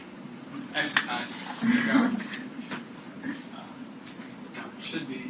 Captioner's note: student giggling